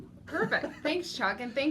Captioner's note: laughs